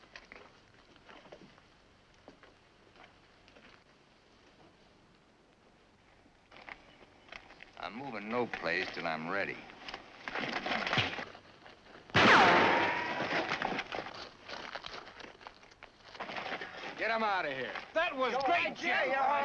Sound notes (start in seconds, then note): 12.1 gun fires